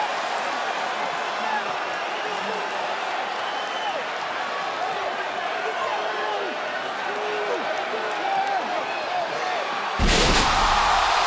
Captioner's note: crowd cheering